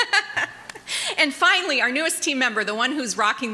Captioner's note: laughter